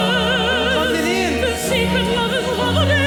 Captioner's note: performer speaking Arabic